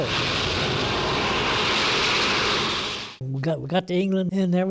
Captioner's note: airplane engines roaring